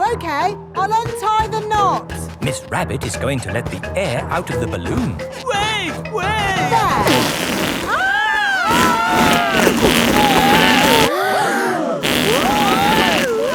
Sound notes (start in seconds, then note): 10.1 both screaming; 11.6 crowd gasps; 13.3 screaming